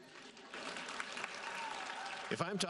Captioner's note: audience applauding